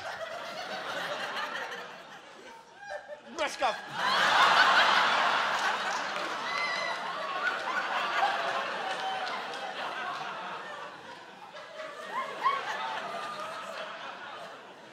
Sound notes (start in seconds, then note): 0.8 laughter; 4.6 laughter, applause